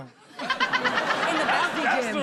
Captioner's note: all laugh